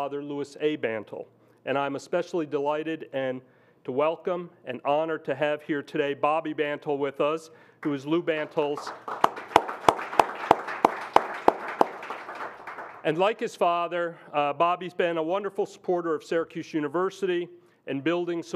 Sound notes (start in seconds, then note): 8.5 audience applauds